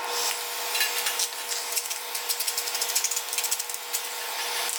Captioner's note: heat gun whirring